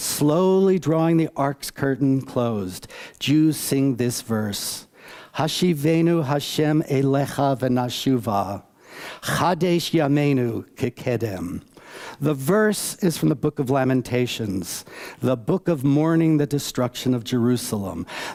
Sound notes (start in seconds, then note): 8.4 reads in Hebrew